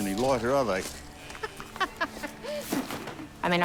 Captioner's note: laughs